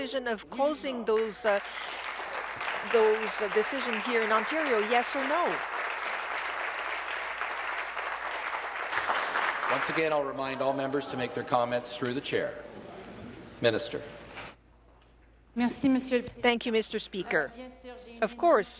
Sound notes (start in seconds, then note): 7.0 applause